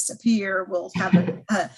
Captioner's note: chuckles